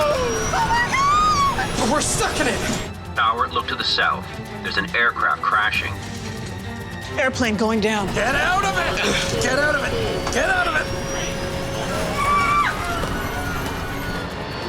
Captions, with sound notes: - Oh my God! - We're stuck in it. - [Computerized Voice] Tower, look to the south. There's an aircraft crashing. - Airplane going down. - Get out of it. Get out of it, get out of it. (plane roaring)